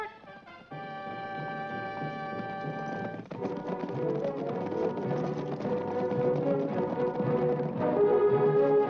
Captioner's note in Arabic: ضربات حوافر; موسيقى أوركسترالية درامية